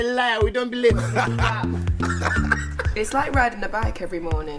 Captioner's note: laughs